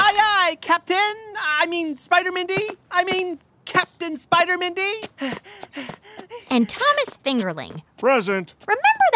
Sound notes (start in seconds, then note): 1.4 panting, running away; 1.4 soundbite of running footsteps